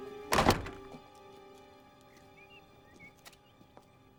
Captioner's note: door slams